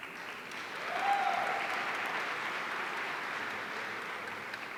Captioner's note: audience applauding